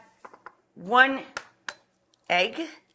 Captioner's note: egg knocks twice